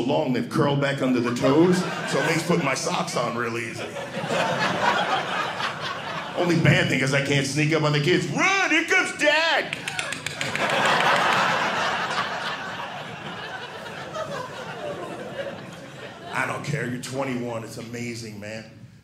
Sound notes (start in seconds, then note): 4.2 audience laughing; 9.7 clicking noises; 9.7 audience laughing